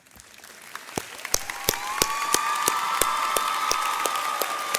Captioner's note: audience cheering